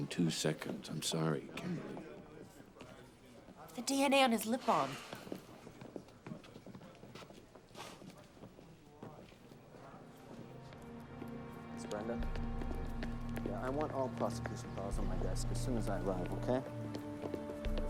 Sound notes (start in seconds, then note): 7.6 scoffs